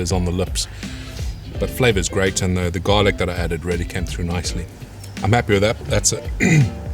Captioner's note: coughs